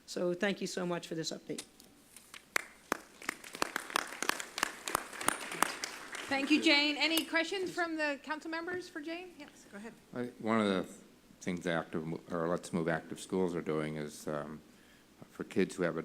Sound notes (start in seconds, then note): 2.3 applause